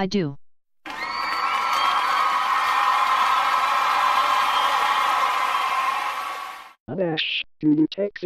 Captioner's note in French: le public applaudit et applaudit sauvagement